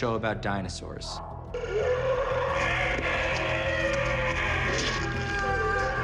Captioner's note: dinosaur roaring